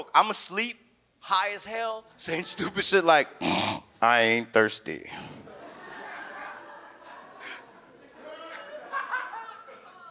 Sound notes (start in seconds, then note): 3.5 snores; 5.4 all laugh